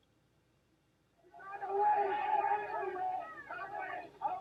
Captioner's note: yelling